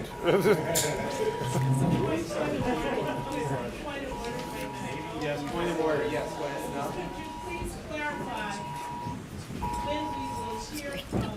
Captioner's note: laughter